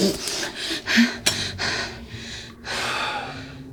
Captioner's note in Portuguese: respiração acelerada